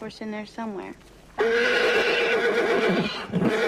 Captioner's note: neighing excitedly